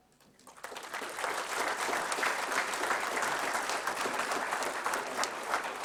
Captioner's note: applause